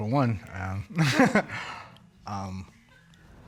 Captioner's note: chuckles